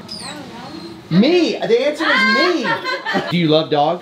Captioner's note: employee laughs